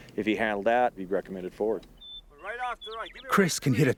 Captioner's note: voiceover